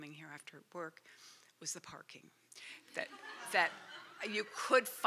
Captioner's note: laughter